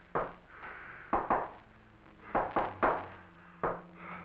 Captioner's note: male knocking